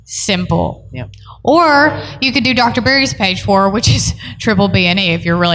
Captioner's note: none